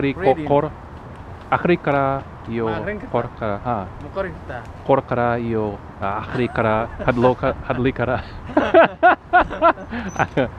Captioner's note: somali